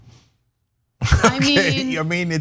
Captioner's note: laugh